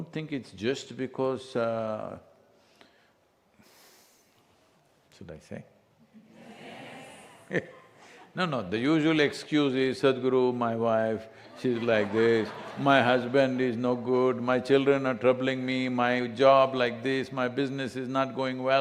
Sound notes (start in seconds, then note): 7.4 Sadhguru laughs; 11.4 laughter